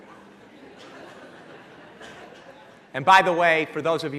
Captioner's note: laughing